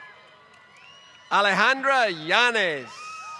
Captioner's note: applause